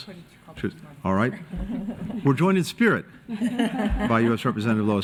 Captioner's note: laughter